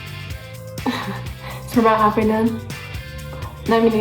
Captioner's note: laughs